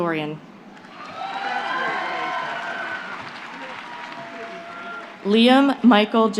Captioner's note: applause